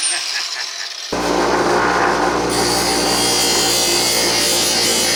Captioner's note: laughing; drilling